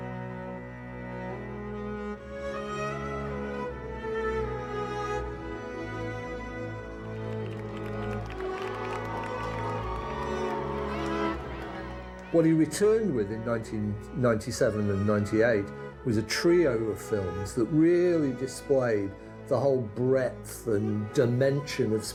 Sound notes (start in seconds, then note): 7.1 crowd cheers